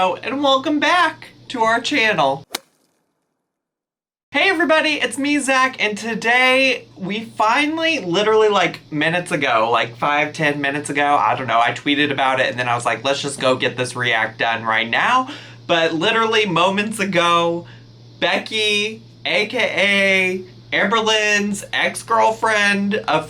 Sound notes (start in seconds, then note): none